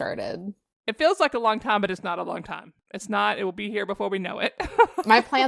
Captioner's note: laughter